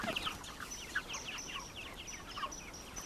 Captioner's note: chicks chirping